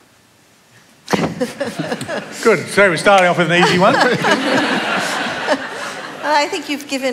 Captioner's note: laughter